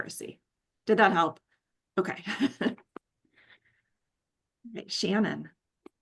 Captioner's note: chuckles